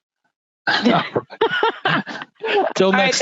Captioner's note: laughing